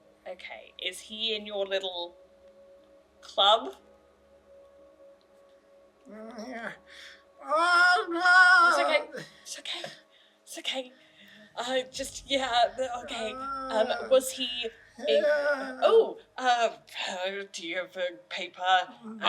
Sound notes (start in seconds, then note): 7.4 distressed noises